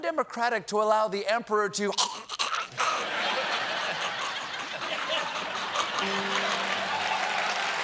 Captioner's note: laughter; choking; applause